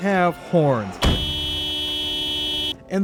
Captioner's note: car horn